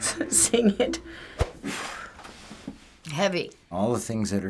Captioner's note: deep sigh